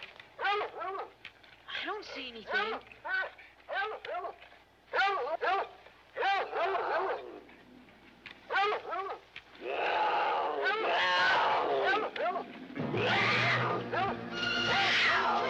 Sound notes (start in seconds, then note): 3.3 dogs barking; 9.6 mountain lion roaring